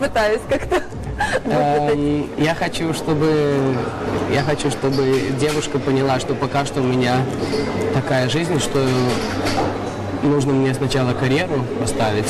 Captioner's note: laughs